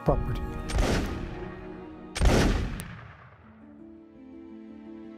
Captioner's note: gunshots